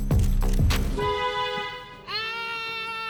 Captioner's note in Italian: clacson